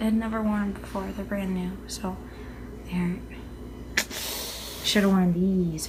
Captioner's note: breathes in harshly